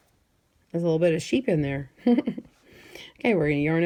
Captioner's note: giggles